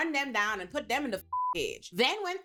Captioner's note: beep